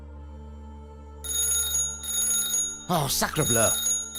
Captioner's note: phone rings